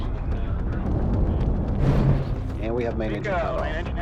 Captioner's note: rocket engine roaring